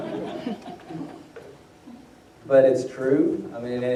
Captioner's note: laughter